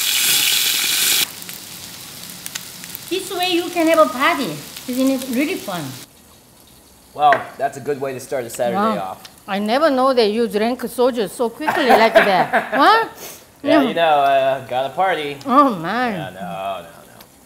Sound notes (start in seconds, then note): 11.6 laughs